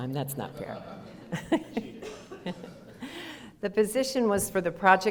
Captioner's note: audience laughter